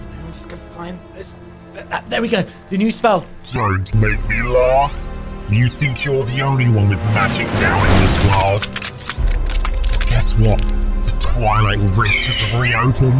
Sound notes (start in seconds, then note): 7.1 lightning whizzing; 7.2 lighting crackling